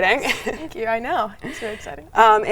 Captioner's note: laughs